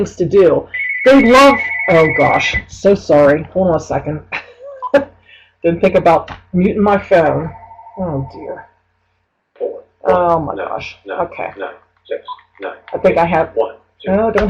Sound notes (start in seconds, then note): 0.7 phone ringing